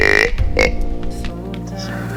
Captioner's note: duck call